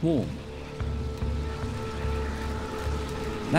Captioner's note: locusts fluttering